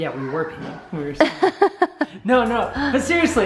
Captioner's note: laughing